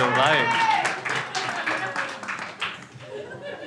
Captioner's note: crowd applauds